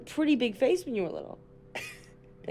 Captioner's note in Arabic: ضحكات خافتة